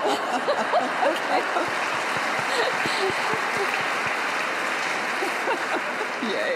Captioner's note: applause